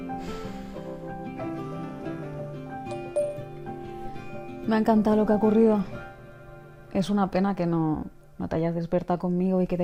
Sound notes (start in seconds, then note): 2.9 voice note message sound